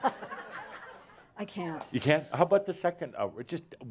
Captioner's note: more chuckles